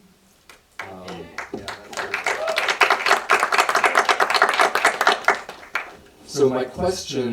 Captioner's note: audience applause